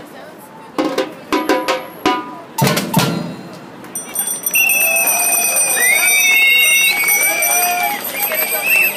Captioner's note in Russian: аплодисменты, крики и звонки велосипедистов